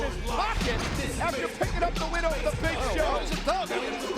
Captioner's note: graphics whooshing